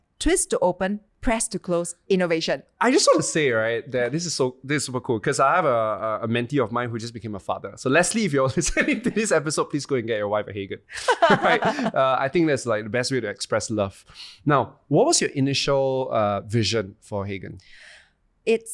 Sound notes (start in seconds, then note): 10.9 laughing